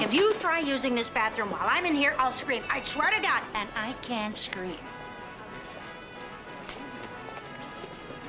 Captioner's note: none